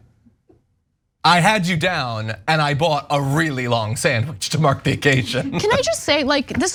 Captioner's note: laugh